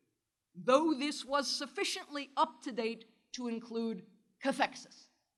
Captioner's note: german